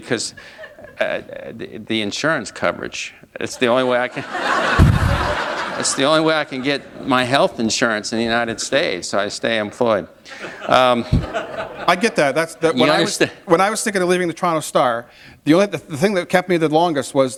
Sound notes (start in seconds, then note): 3.7 laughter